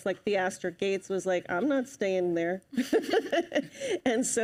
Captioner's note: laughs